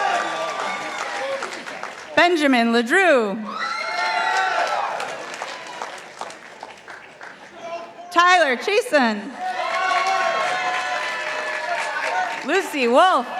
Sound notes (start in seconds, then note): 0.0 participants applauding; 3.7 participants applauding; 9.4 participants applauding